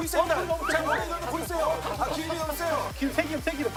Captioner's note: huff / Puff